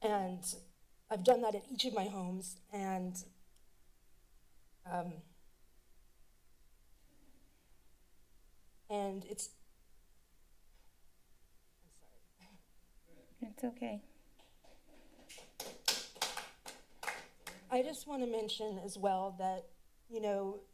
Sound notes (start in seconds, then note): 15.2 applause